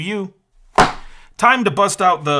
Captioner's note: box clack